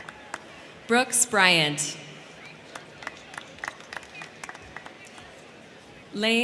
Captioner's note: crowd cheering